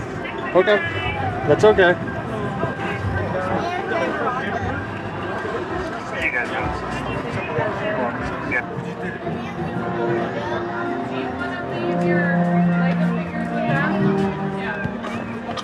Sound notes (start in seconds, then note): 6.0 chattering; 15.2 upbeat music